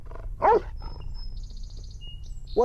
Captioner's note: dog barks